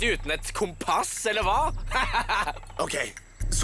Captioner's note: chuckles